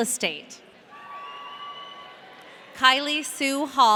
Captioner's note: audience cheering